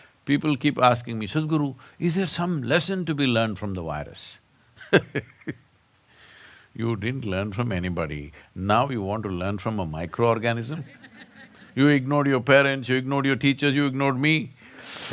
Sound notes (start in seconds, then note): 5.4 laughs; 10.8 laughter